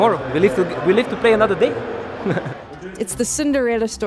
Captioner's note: chuckles